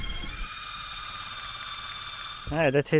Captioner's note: drill whirring